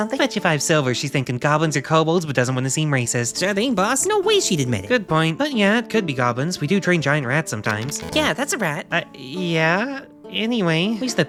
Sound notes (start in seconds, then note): 7.8 rolling dice, failure buzzer